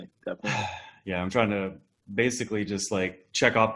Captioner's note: sighs